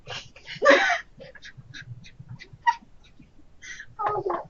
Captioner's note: laughter